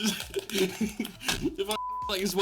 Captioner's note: fork rattling